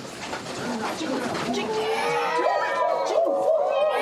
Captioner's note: meowing and howling